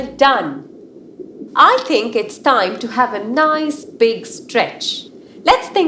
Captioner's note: music fades; underwater sounds